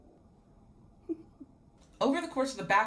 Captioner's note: girl in white sweater chuckles